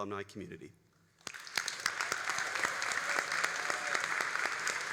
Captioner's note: all applauding